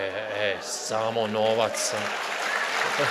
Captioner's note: applause